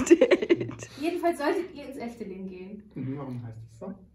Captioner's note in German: Gelächter